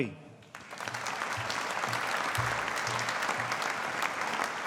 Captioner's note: audience applauding